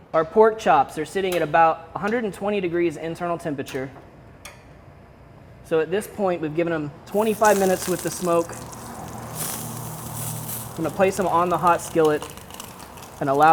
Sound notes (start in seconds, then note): 7.1 sizzling